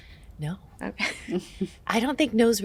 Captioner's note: chuckles